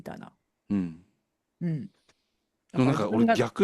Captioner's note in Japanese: 咳払い